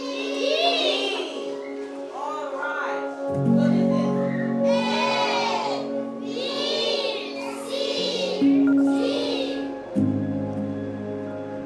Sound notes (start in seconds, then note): 5.1 kids in unison